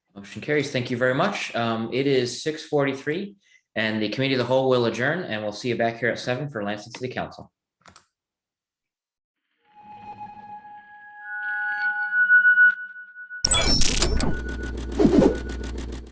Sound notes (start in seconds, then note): 10.0 bright music; 13.5 digital swooshing